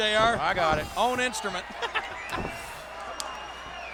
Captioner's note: laughs